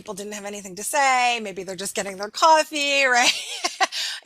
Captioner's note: laughing